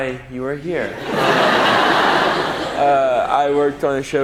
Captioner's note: audience laughs